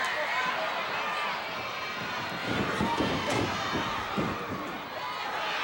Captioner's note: audience cheering continues